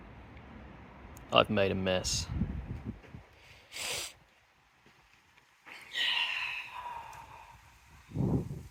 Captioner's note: sigh